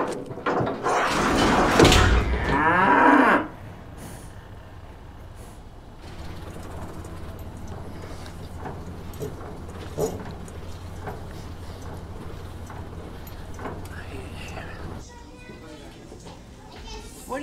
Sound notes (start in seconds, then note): 0.0 door closes; 6.0 lever turning; 15.3 children chattering